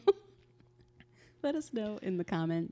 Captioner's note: laughs